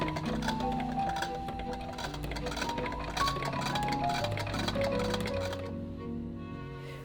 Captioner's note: machine clicking